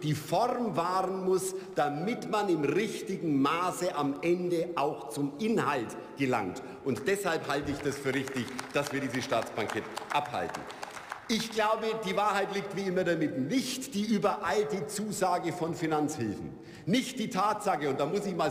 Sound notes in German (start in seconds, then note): 9.5 Beifall